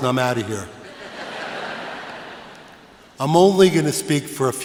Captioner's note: laughter